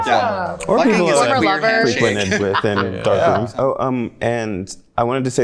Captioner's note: overlapping chatter